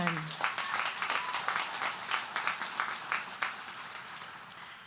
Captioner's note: audience applauding